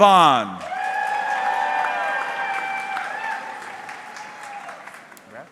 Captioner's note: audience cheering